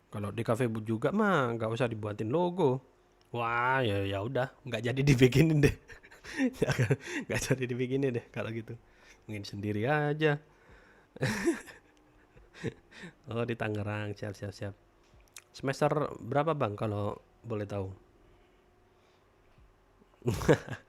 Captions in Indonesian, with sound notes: Kalau di kafe juga mah enggak usah dibuatin logo. Wah, ya. Ya udah, enggak jadi dibikinin deh. [tertawa] Enggak jadi dibikinin deh kalau gitu. Mungkin sendiri aja. [tertawa] Oh, di Tangerang. Siap, siap. Siap. Semester berapa, Bang, kalau boleh tahu.